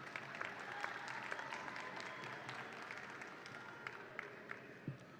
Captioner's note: audience applauds and cheers